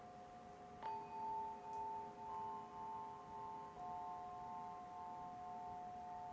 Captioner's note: chime melodically ringing